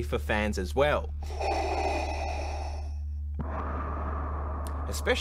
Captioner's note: darth vader breathes